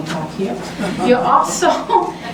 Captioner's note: laughter